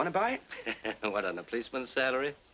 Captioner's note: chuckles